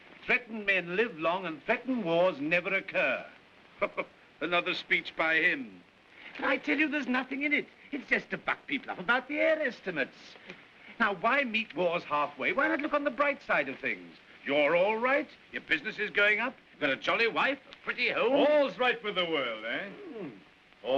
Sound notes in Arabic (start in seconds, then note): 3.7 يضحك